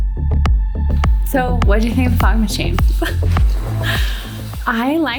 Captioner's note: laughs